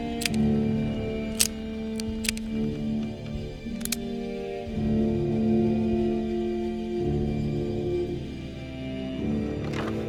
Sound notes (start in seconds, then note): 0.2 gun barrel clicking; 3.7 gun cocking